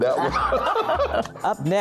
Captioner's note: laughing